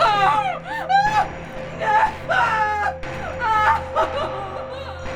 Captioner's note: laughs; shouting